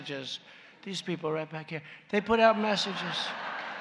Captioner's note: laughter